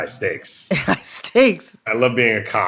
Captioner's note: laughter